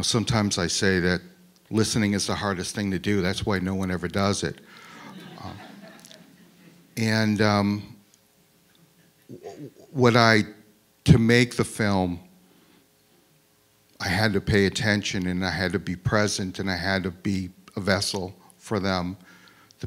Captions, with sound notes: sometimes I say that listening is the hardest thing to do that's why no one ever does it. (crowd laughs) And to make the film, I had to pay attention and I had to be present and I had to be a vessel for them,